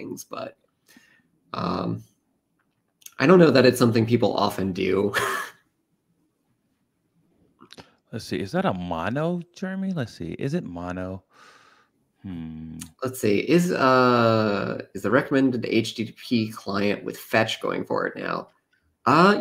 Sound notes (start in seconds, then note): 5.1 laughs